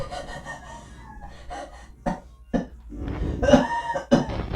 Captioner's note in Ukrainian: Сміх; Кашель